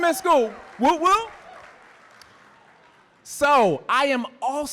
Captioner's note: audience applauding